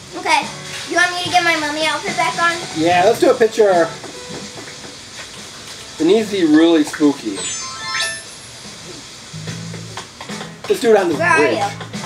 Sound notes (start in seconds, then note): 7.3 chimes as outfit changes